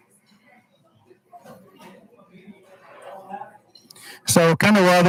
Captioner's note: hushed speaking